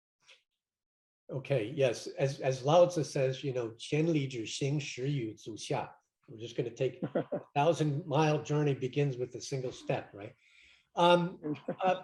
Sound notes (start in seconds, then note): 4.0 speaks in foreign language